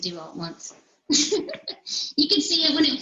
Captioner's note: laughs